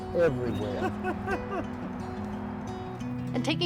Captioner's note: laughing